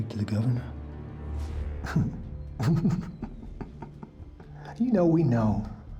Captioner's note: laughing